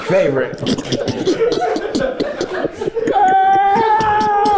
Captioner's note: everyone laughs